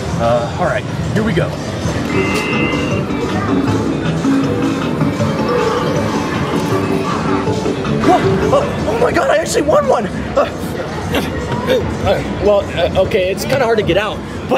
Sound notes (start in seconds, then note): 2.0 upbeat music; 10.3 sonic grunting